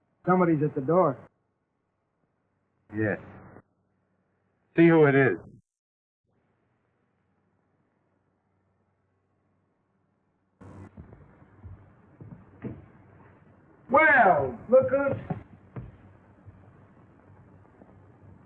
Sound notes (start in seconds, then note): 10.6 footsteps; 12.2 door opens